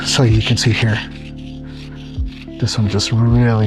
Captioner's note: hematite scraping on stone